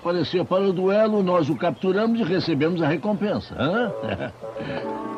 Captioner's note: chuckles